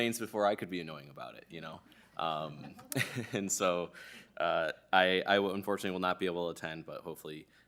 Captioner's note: laughter